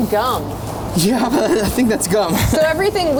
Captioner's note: laughs